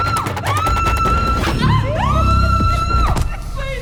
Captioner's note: continues screaming; screams; female laughs